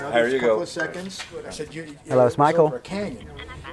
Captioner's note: phone rings